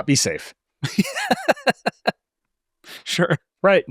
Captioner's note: laughs